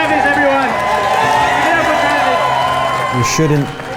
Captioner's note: crowd cheering